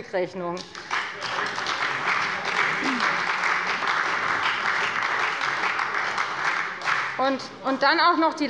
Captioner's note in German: Beifall bei der FDP und bei Abgeordneten der SPD